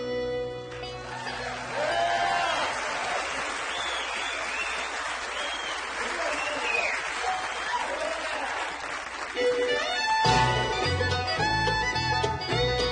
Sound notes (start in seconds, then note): 6.0 audience applauds